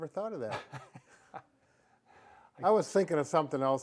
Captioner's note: laughing